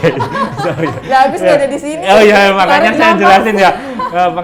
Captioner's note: laugh together